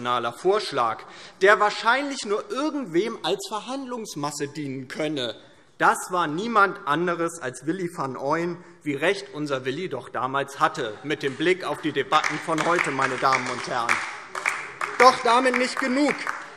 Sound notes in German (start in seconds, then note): 14.6 Beifall DIE LINKE